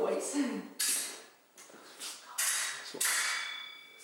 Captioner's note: sword clanging